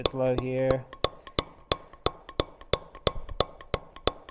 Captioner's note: metal hammering